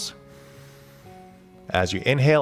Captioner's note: inhaling